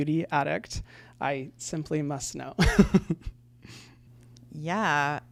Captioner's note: laughs